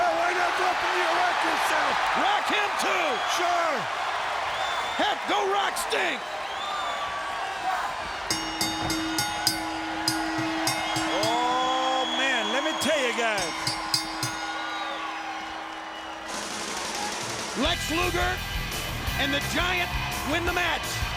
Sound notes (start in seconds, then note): 8.6 bell dings